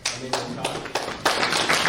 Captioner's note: audience applause